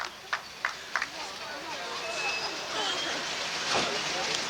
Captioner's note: clapping